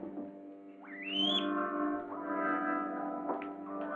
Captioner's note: guinea pig squeaking